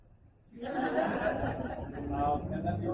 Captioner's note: laughter